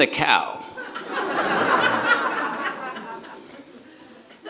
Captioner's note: audience laughs